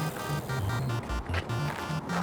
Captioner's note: bicycle whirring